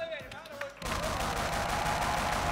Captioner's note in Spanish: Aplausos